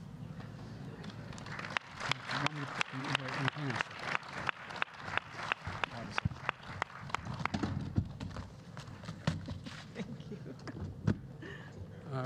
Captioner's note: applause